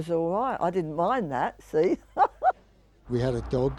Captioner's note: chuckling